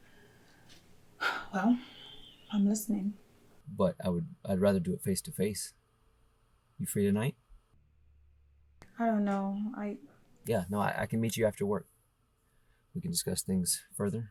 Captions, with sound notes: - (Abby sighing) Well, I'm listening, - But I would, I'd rather do it face to face. You free tonight? - I don't know, I- - Yeah, no, I, I can meet you after work. We can discuss things further.